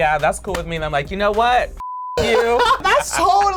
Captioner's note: beep